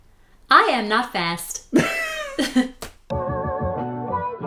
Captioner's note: laughter